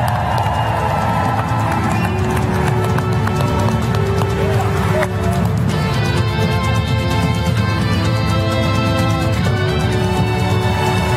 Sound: applause

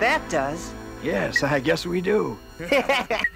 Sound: laughter

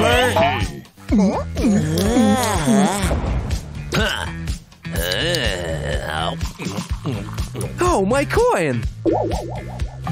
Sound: making a sip; making sips

